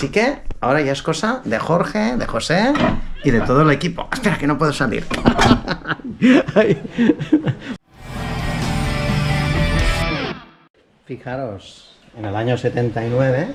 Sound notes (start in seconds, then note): 9.7 laughs